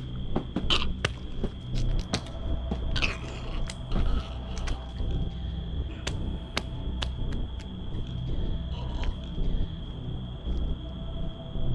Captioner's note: choking, gasping for air